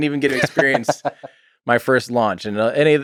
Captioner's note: Lex laughs